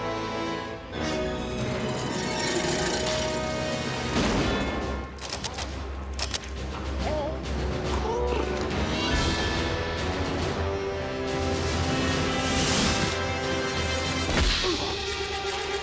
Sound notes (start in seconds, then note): 5.1 cameras clicking; 7.5 cat purrs; 14.1 grunts